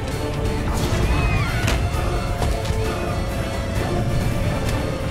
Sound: plane rocking; suspenseful music

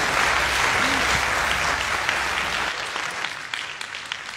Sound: applause

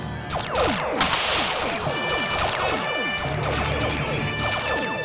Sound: laser noises

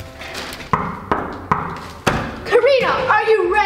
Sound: hard knocking

